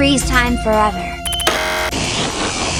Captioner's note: button pushes; electrical zinging